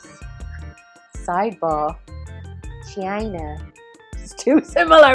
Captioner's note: imitates Donald Trump